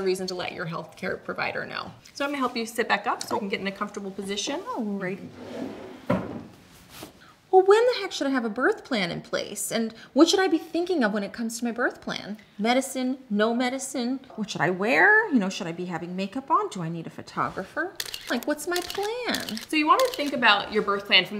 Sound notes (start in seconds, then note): 6.1 thuds; 18.0 camera clicks